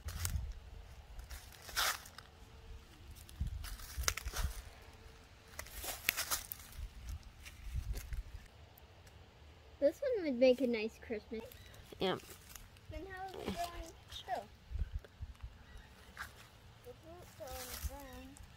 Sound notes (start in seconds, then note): 0.1 leaves rustling; 12.8 children talking